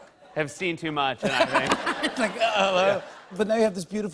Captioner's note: laughter